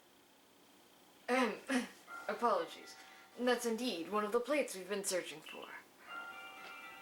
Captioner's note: cough